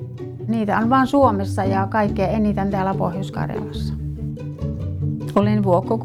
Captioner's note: speaking in foreign language